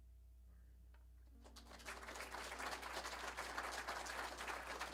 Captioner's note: applause